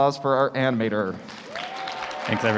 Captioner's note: applause